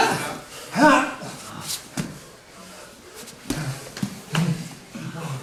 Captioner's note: fighters groaning